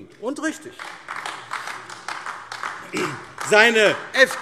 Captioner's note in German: Beifall AfD